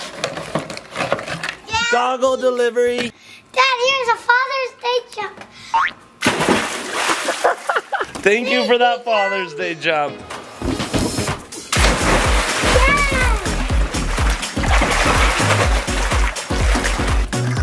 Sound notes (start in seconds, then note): 1.8 exclaims; 6.2 water splashes; 7.2 laughs; 11.7 water splashes; 14.1 upbeat music